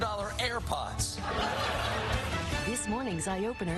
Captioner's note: laughter